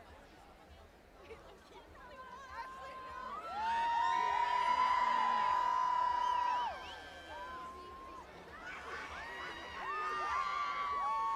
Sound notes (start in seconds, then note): 5.6 cheers